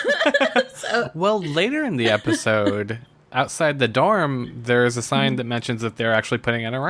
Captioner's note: laughs